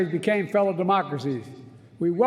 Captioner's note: none